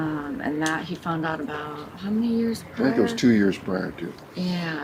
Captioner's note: none